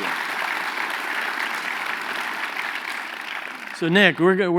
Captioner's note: applause